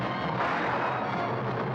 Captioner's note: gunshot